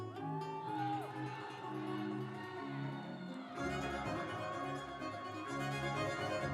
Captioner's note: audience cheering; instrumental music